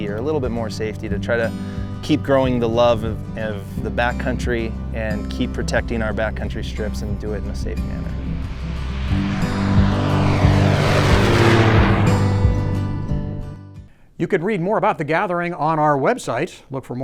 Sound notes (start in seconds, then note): 8.7 soft music; 9.7 plane engine roaring; 12.2 soft music